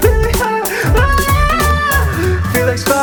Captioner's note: yells